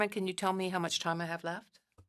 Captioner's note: speaking French